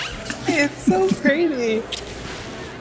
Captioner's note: laughs